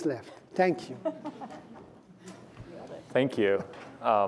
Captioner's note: laughter